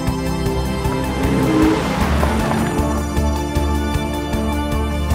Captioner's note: engine revving